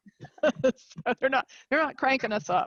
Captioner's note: laughing